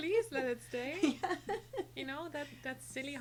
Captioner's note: laughs